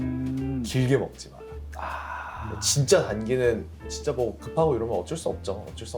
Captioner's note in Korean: 한숨